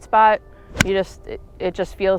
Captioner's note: golf ball smacks